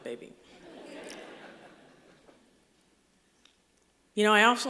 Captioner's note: laughter